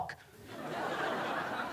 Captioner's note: laughter